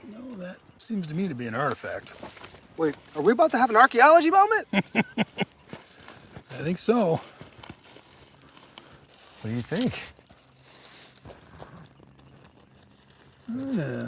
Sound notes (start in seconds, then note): 4.7 laughs quickly